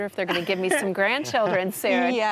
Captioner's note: laughs